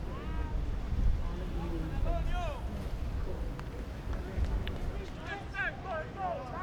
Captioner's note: players yelling in foreign language